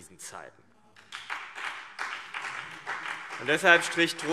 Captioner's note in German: Beifall